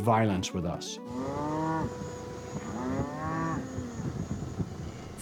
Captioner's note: cow mooing